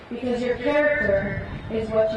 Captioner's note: none